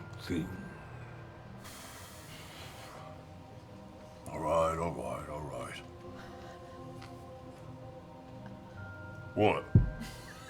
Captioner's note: exhales